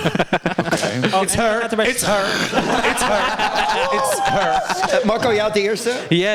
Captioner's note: all laugh